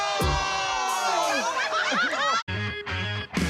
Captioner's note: laughter